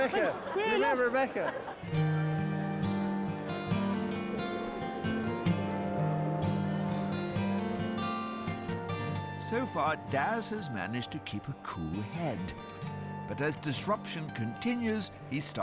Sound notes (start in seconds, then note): 2.2 bustle of passengers